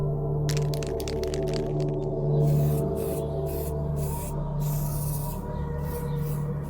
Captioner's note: paint can rattling and spraying